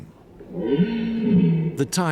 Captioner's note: stag roaring